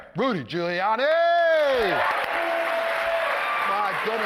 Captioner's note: applause, cheers